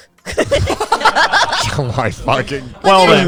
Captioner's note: everyone laughing